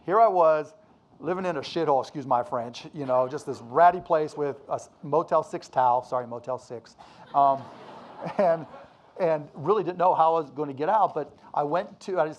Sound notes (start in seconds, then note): 7.2 audience laughing